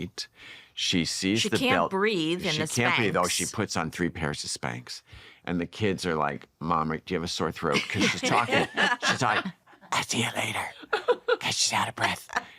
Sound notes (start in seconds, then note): 7.7 laughter; 9.7 raspy